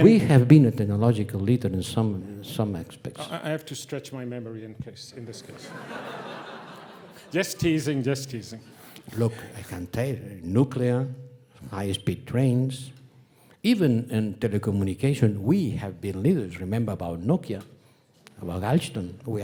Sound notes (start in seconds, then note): 5.3 audience laughing